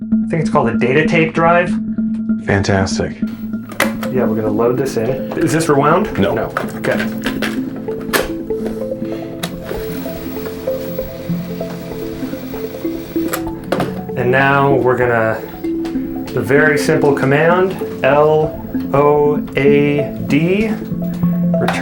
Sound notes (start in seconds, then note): 9.8 tape buzzing